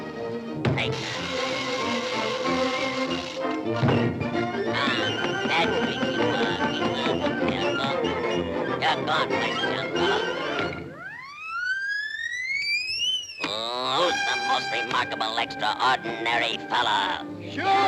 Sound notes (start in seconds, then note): 1.0 arm whirring; 3.8 fists thudding; 11.0 Sinbad whooshing